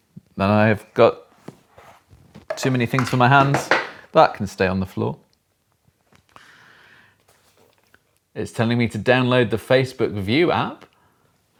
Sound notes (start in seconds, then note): 2.4 box clatters